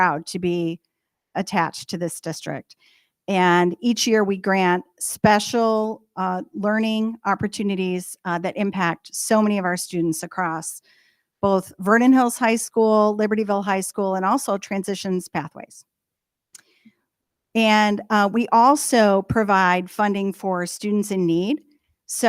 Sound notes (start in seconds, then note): none